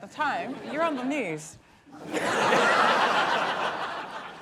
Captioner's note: laughter